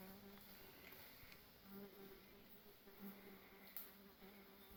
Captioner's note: annoying fly sound